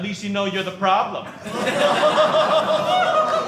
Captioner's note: audience laughing